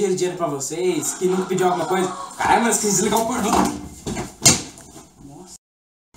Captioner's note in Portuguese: Gemidos de fundo